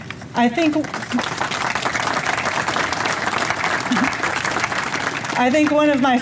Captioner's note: audience applauds